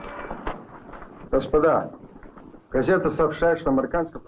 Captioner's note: Marshall speaking in Russian